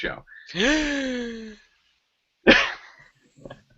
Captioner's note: gasp